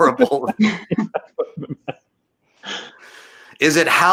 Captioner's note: chuckles